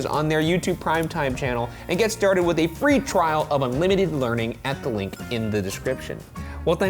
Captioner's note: none